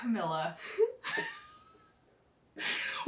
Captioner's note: laughter